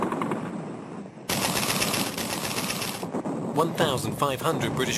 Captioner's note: artillery firing